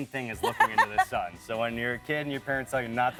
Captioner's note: laughs